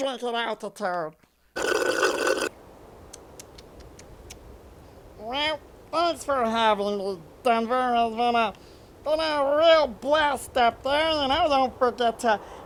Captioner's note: slurp; slurring words